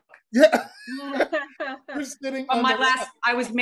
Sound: laughs

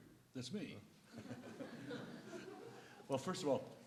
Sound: laughter

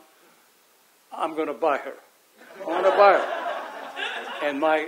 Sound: audience laughs

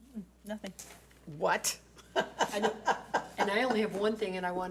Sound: laughs

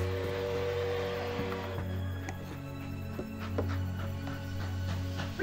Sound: train whistles, chugs

